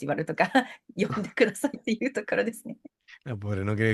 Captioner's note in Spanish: risas